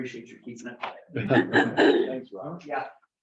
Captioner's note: members laugh